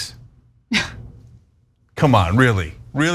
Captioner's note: laugh